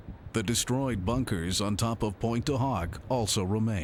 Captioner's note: wind blowing